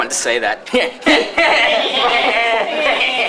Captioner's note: nerdy Laughing